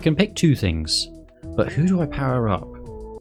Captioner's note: none